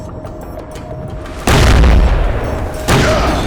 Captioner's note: banging